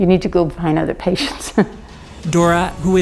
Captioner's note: laughs